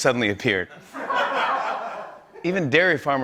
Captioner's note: laughter